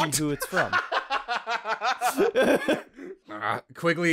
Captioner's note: laughter